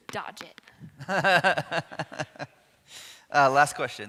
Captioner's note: man laughing